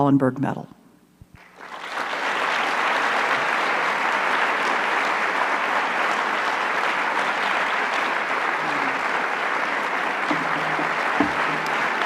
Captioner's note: applause